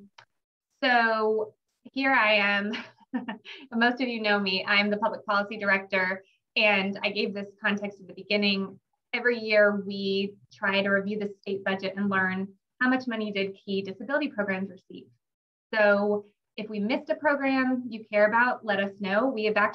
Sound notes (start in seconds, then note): 2.7 chuckles